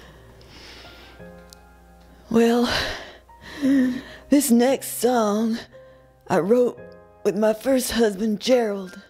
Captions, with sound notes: Well, (wheezes) This next song I wrote with my first husband Gerald,